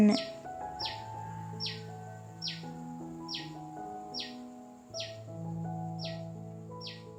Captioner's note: bird sound